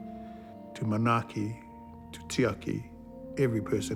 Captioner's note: speaks Maori